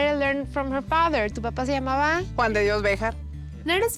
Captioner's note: conversing in Spanish